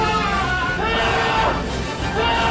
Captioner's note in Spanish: Mas gritos rompe oídos; Mas gritos rompe oídos x2